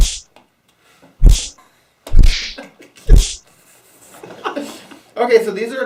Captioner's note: both laughing